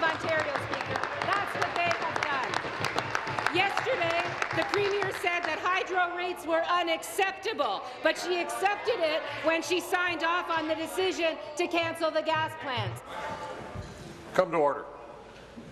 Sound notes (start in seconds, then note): 4.7 applause